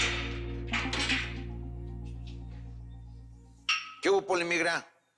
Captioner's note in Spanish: Ruido al abrir la reja